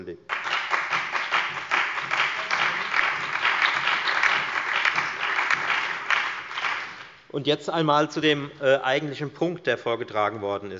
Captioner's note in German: Beifall bei der FDP, der SPD, dem BÜNDNIS 90/DIE GRÜNEN und der LINKEN